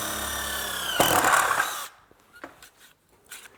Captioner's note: taladro